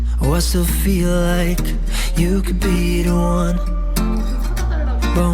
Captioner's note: chatter